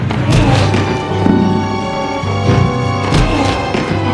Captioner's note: grunting